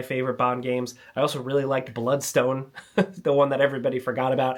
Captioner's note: chuckles